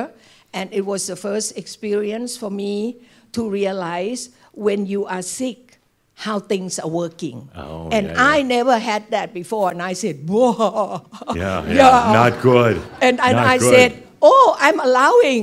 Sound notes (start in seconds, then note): 12.4 some chuckles